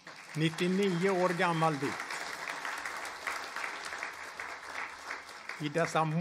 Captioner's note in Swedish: applåder